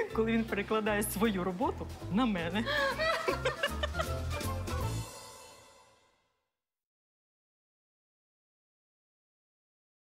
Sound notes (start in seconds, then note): 2.8 laughs